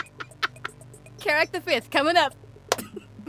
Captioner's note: cackles; claps